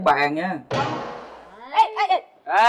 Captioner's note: sound of a rubber band against the table?